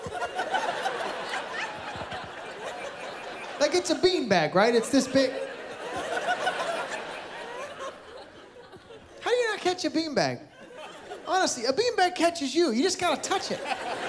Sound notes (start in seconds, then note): 0.0 laughter; 6.2 laughter